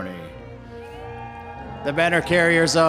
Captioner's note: audience cheering